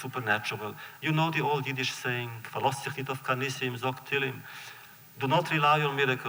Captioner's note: Yiddish